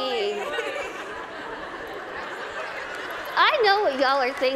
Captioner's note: laughter